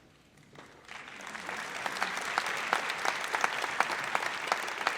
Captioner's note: audience applauds